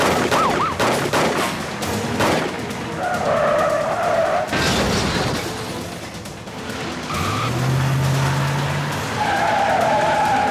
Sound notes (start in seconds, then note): 0.0 gunshots blasting; 2.8 tires screeching; 4.3 car crashing; 4.6 window busting; 6.5 tires screeching